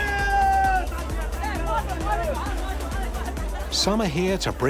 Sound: man shouts triumphantly

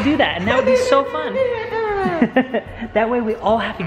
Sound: laughing

